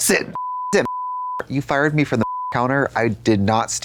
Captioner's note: beep